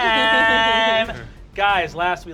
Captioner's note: laughter